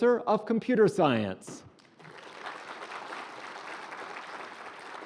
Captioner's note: applause